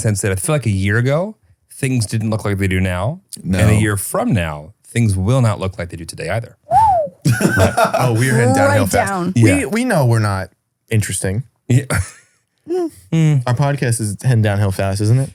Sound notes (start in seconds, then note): 6.6 whistles; 11.8 chuckles